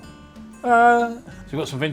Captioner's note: wails